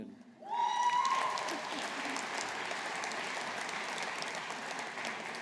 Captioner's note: audience applauding